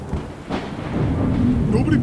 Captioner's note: humming